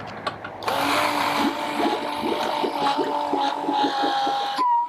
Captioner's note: pump roaring